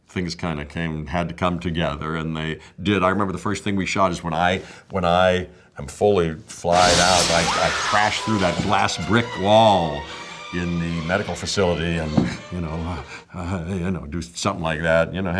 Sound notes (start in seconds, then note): 6.7 screams; 6.9 glass shatters